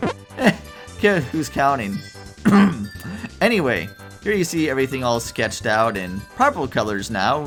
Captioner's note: eh hem